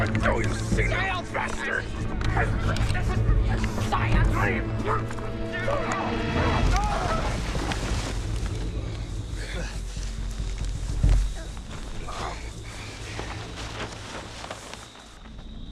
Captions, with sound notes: - Hypocrite! - This is for science! (Tent crashes loudly, sticks crunch) (Grunts) (Quiet chirps)